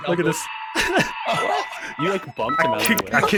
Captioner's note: shock and awe and giggles